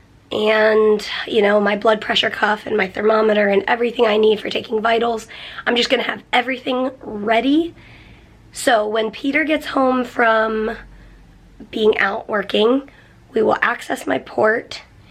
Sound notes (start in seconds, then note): none